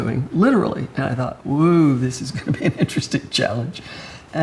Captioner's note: laughs